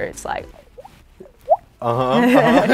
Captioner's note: bloop bloop; both laugh